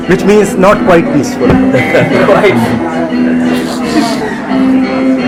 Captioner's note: laughing